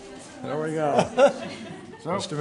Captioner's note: laughter